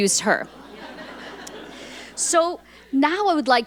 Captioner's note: audience laughing